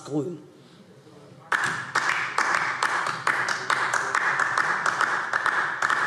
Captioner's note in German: Beifall DIE LINKE